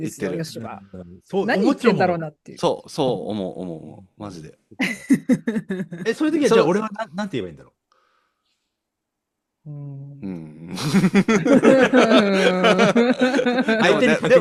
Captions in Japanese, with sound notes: 何言ってんだろうなっていう。 そう、そう。思う、思う、思う。マジで。 [笑い] え、そういう時はじゃ俺はな、何て言えばいいんだろう。 うん。 うん。相手にことなかったみたい。そ、それが楽しいではあるんですけどね。だからそれが楽しいその構造をだからよさんはそういうキャラを演じてんだろうなって俺は [笑い]